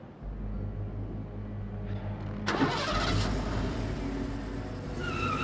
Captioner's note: tires squealing